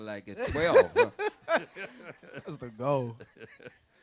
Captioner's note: laughs